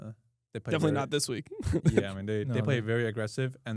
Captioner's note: laughs